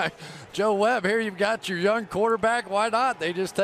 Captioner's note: laughs